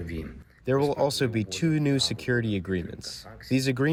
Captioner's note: through translator